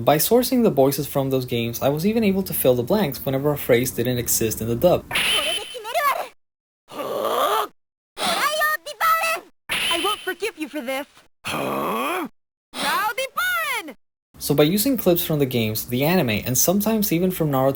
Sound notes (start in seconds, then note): 11.4 grunts